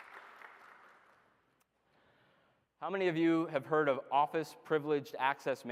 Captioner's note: applause